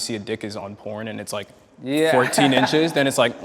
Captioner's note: laughs